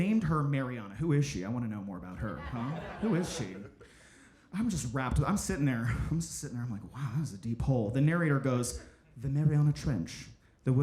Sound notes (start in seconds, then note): 2.2 audience laughing